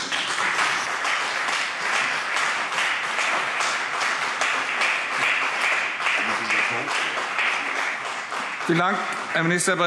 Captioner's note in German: Beifall CDU und BÜNDNIS 90/DIE GRÜNEN